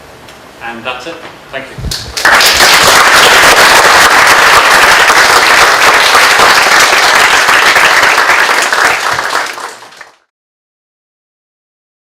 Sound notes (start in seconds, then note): 10.0 applause